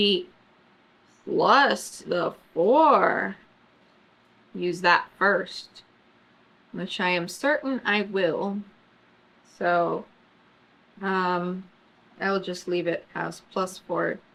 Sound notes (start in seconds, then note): none